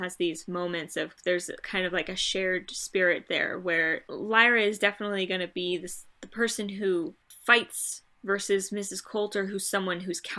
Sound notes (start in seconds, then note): none